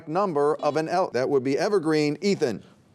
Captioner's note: buzzer beeping